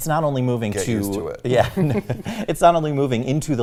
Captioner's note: laughs